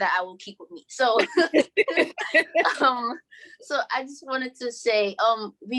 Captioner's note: both laughing